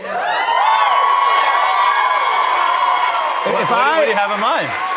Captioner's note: cheers and applause